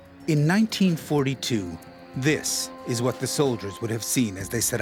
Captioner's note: voiceover